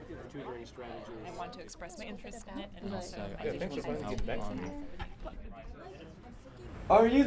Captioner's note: quiet chatter